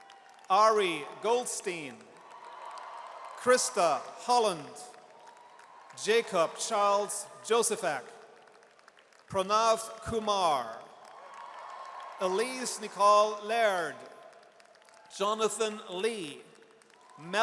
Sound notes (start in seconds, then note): 1.7 audience cheers; 9.3 audience cheers